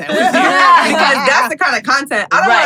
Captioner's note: everyone laughs